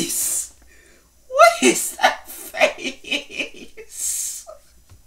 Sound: breaks Down Laughing

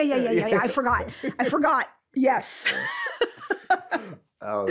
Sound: laughs

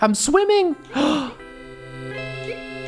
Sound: gasp

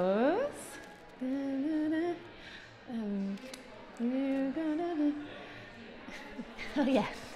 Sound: humming

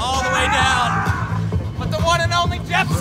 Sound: yell

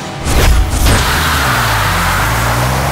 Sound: vehicle overturning with a screech

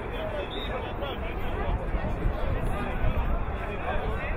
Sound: whistle blowing

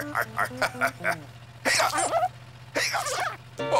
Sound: laughing; hiccuping, squeaking

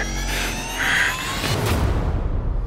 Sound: breathing heavily

